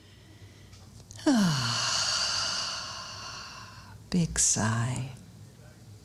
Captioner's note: sound of exhalation